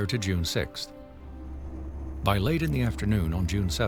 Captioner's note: car engine droning